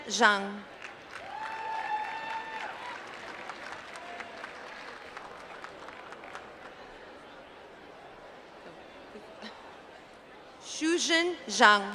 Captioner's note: applause